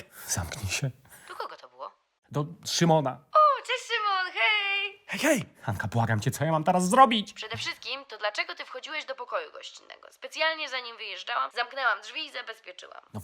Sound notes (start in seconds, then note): none